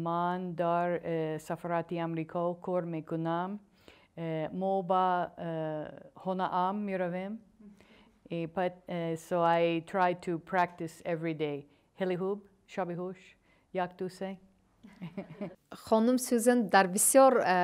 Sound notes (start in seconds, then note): 0.7 speaking in tajik; 12.5 speaking in tajik; 14.8 laughter